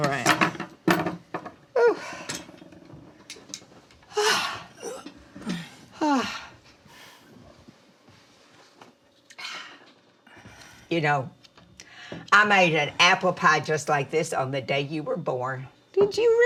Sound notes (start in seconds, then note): 4.1 Mama exhaling